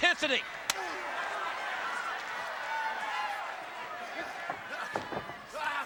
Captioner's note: audience chattering